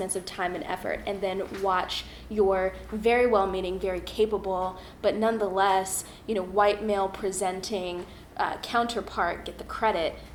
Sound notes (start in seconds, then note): none